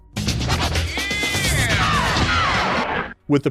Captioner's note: lively upbeat music; vocalist yelling